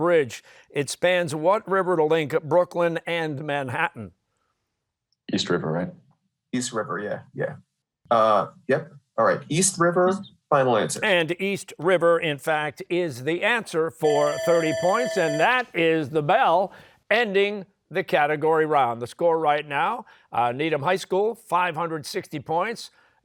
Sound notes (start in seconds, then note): 14.0 bell ringing